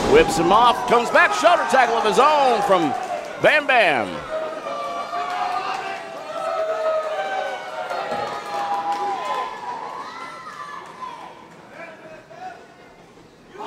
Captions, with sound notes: whips him off, comes back Shutter tackle of his own from Bam Bam. (crowd cheers)